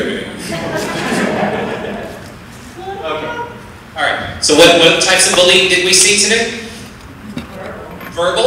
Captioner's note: laughter